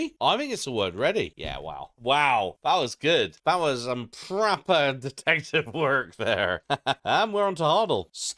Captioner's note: laugh